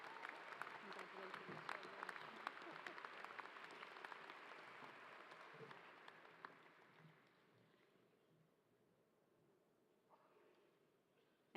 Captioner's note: applause